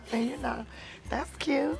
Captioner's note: Esther laughs